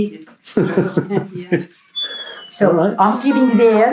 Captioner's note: interviewer chuckles